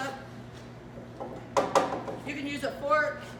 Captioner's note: spatula clunks against the bowl